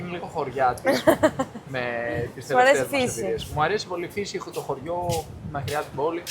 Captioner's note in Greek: γέλια